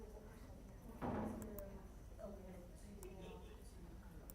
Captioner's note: people chattering